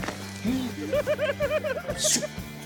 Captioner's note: giggles